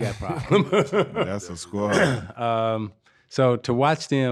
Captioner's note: laughing